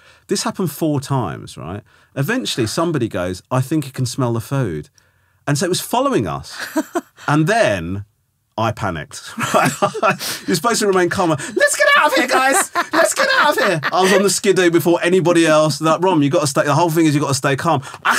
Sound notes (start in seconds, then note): 6.6 laughing; 9.3 Romesh laughing; 11.2 laughing